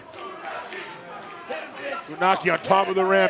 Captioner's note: crowd cheering